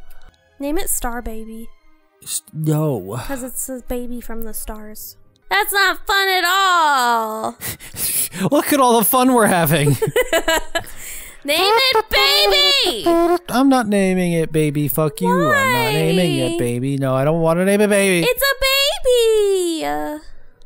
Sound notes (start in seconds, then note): 6.9 laughing; 9.8 laughing